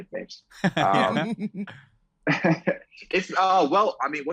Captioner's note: laughs